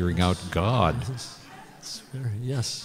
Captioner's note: laughter